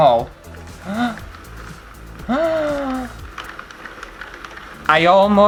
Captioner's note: gasps of excitement